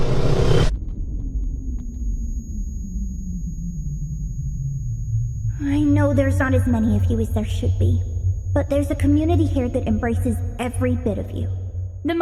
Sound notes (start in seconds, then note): 0.5 ringing; 5.6 bot's voice